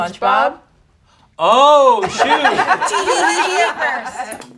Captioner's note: group laughs